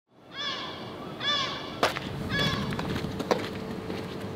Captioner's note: bird cawing